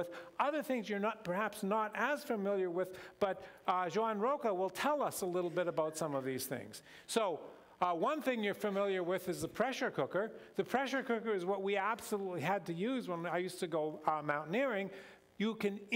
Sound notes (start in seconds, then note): none